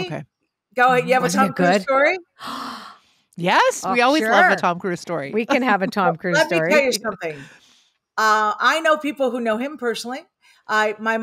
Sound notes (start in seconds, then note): 2.4 gasps